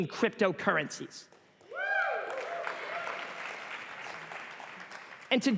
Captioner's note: applause